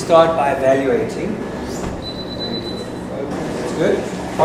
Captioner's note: beeping